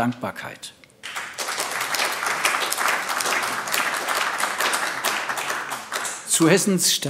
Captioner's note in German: Beifall AfD